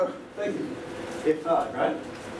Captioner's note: laughs